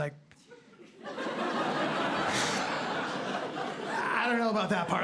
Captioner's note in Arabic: ضحك